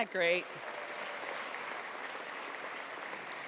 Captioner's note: applause